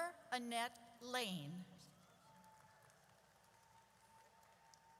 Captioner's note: audience cheers